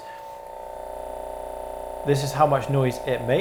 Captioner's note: massage gun whirring